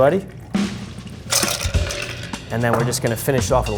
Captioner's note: spirits trickling; ice clatters